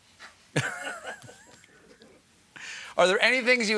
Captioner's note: laughter